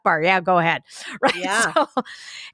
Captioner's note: laughs